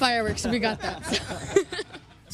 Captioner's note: laughter